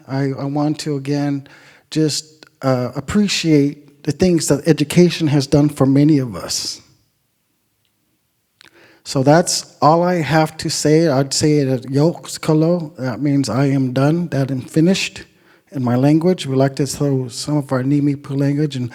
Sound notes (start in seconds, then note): 11.6 speaking Indigenous language